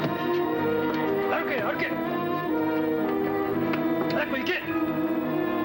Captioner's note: yelling in foreign language; dramatic music